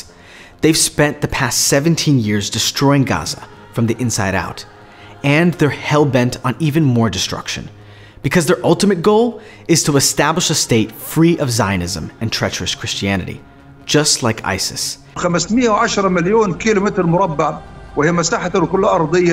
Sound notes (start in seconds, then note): 15.1 speaking Arabic